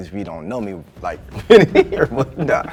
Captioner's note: laughs